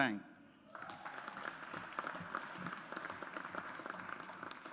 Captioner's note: audience applauds